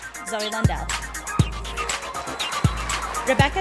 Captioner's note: sound of applause and cheering from the audience